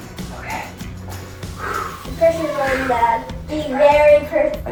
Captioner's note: exhales